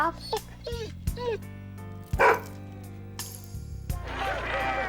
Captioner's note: dog whines, barks